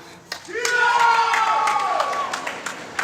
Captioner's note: applause